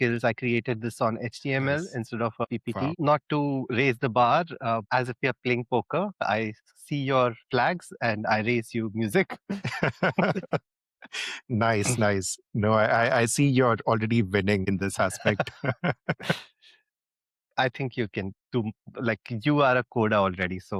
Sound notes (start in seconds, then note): 15.0 laughs